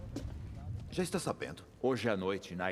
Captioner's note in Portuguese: none